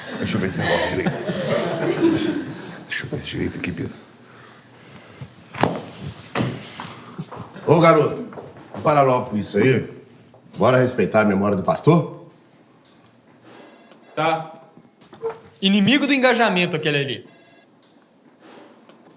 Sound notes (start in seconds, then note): 1.7 laughter subsides